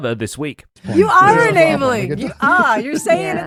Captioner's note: crowd chattering